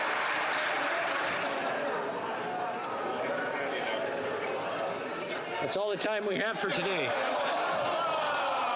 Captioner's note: some Applause